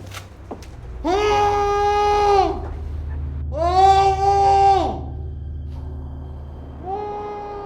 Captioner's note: ominous music; yelling